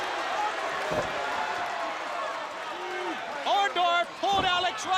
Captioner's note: crowd chatter